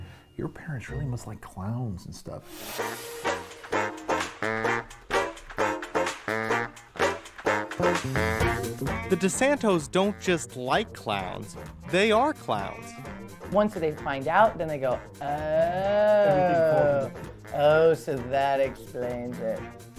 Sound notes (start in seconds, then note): 2.5 upbeat music; 2.9 voiceover